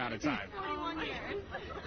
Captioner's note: laughter